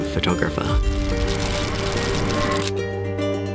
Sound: camera shutters

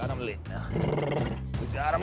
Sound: blubbers lips

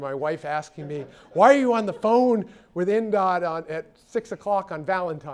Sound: laugh

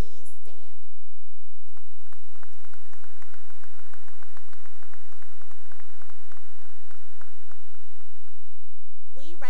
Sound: applause

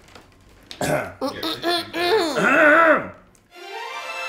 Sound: clears throat; bright music

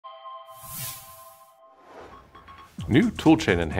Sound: chimes

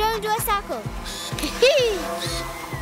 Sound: whirring

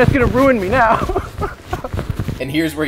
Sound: laughs

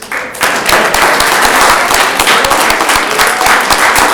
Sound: audience clapping

